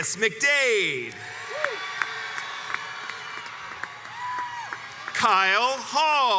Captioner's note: crowds cheers and applauds